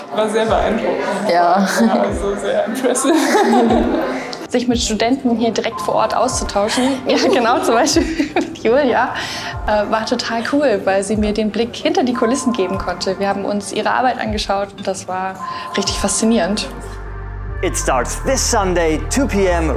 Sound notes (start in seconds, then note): 1.1 Lachen